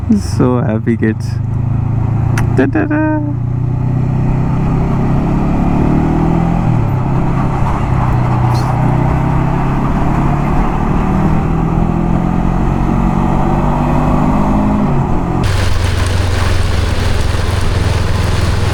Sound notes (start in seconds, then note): 4.0 engine thrum